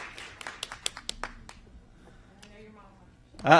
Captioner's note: applause